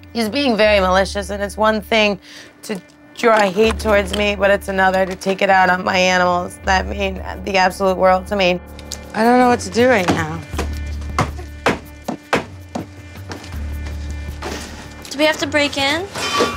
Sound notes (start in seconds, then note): 10.0 stomping; 16.1 clattering